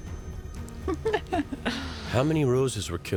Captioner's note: stana katic laughs